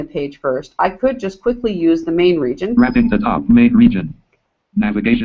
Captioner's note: JAWS speaking